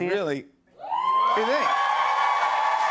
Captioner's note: cheers and applause